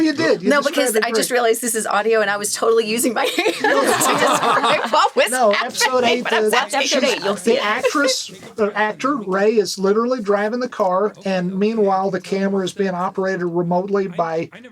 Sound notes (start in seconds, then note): 5.8 all laughing